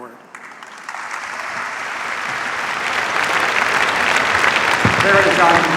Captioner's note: applause